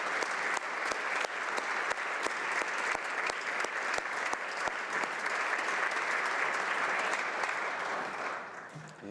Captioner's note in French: applaudissements